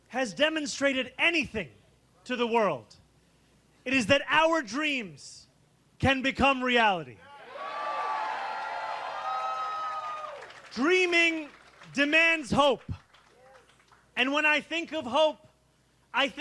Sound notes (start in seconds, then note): 8.8 cheering